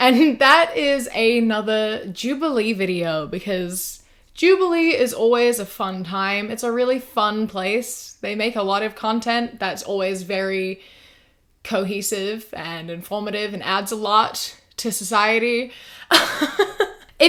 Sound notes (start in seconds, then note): 16.2 laughs